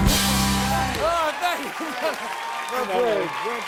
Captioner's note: laughs